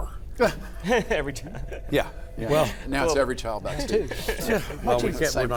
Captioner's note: laughter